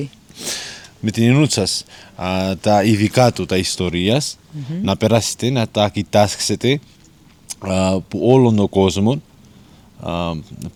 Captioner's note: continues speaking Greek